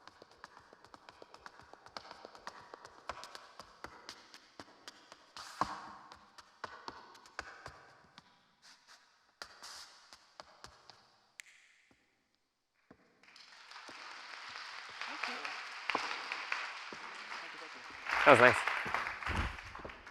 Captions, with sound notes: (fingers snapping) (audience clapping) - That was nice.